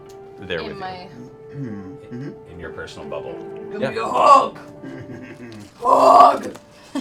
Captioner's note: deep voice